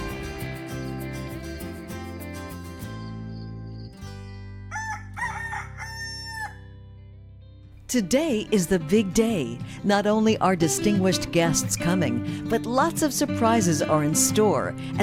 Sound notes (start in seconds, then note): 4.7 rooster crows; 7.4 soft music